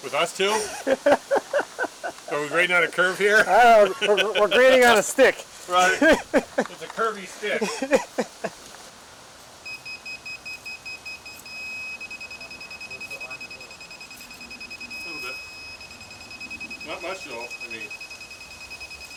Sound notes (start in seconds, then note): 0.4 laughing; 10.3 machine beeping